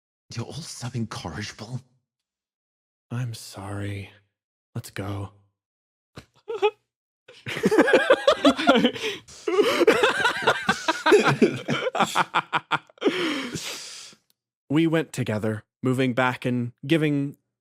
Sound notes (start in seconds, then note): 7.4 Aloha giggle; 7.4 laughs